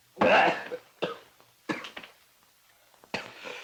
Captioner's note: Hodges coughs